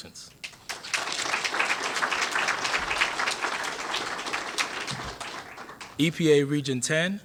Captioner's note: applause